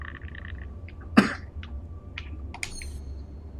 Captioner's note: coughs